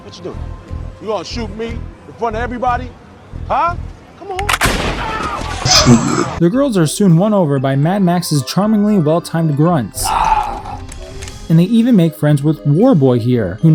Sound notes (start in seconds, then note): 4.4 gunshot; 4.9 people screaming in terror; 10.0 Max grunts